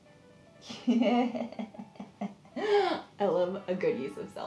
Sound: laughs

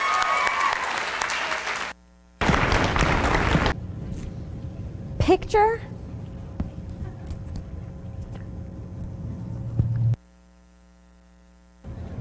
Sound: applause

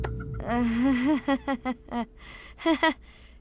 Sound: laughs nervously

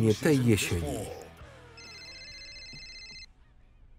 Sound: phone ringing

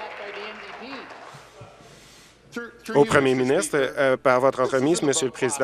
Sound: applause

